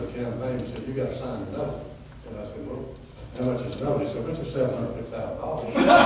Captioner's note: laughter